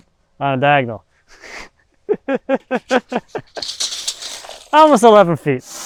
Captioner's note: chuckling